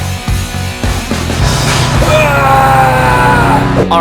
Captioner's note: screaming